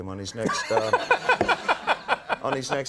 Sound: Conan laughing

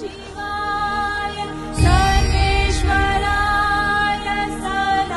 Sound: none

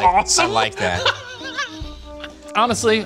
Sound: laughing

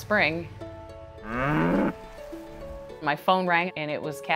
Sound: cow moos

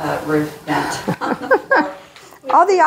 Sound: laughing

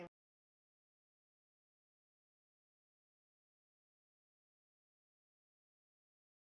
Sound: silence

